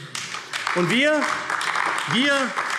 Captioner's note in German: Beifall AfD